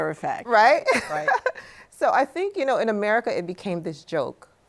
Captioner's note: laughs